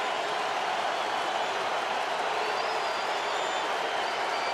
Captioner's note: cheering